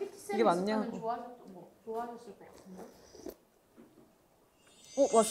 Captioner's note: sipping